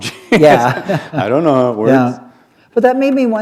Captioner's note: laughter